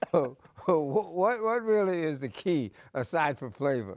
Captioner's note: bursts of laughter